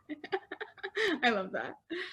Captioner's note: laughing